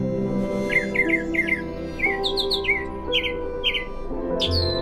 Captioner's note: bird tweeting